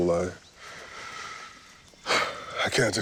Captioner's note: sighs